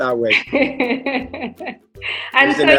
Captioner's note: laughs